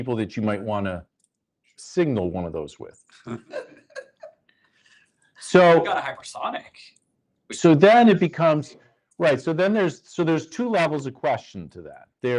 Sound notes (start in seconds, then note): 3.0 chuckling